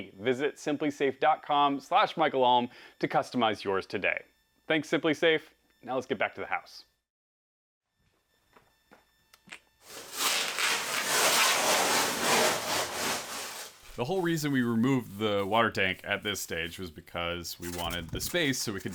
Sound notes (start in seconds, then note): 5.9 pulling of plastic barrier from wall